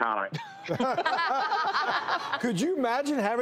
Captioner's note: laughter